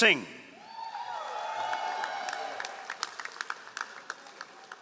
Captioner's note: all applauding